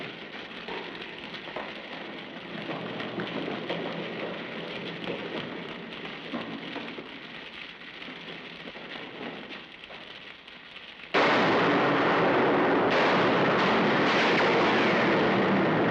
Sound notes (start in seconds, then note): 11.1 gunshots